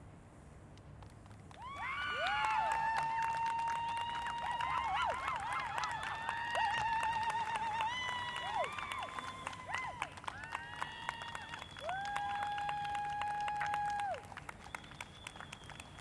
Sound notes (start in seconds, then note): 2.0 cheering; 10.4 applause